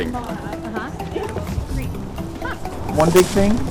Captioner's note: club members chattering